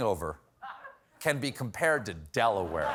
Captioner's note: laughter